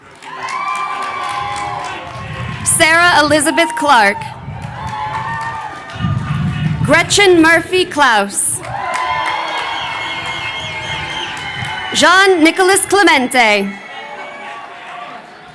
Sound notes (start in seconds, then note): 0.2 crowd cheering; 8.6 crowd cheering